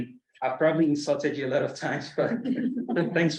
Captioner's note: colleagues laugh